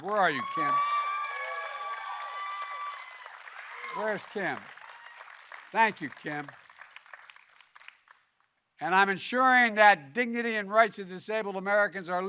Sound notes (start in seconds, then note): 1.4 applause